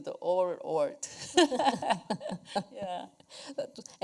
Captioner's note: laughter